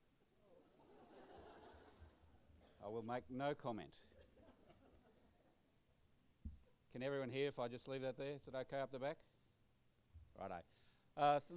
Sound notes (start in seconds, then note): 0.7 audience laughter